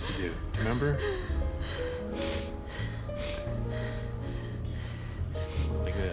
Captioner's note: breaths heavily, sniffles